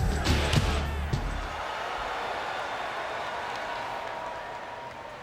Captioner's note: audience cheering